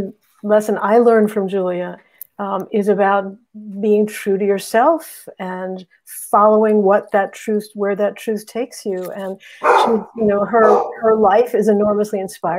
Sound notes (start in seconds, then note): 9.6 bark